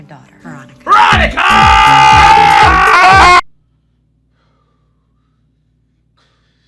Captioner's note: screams